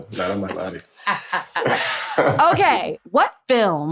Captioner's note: laughter